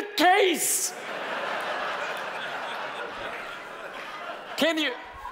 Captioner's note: audience laughing